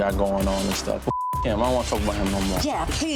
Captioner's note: beep